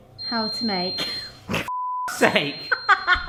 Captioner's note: beep; loud Beep; laughs